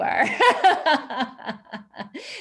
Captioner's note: laughs